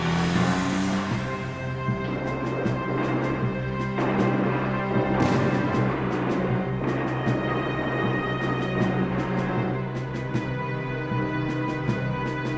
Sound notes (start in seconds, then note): 2.8 guns blasting